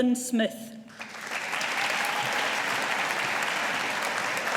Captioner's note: audience applauding